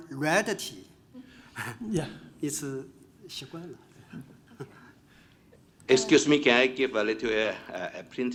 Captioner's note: laugh